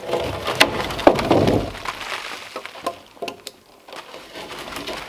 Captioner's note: logs crunching and thudding